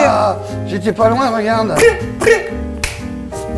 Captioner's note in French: norman crie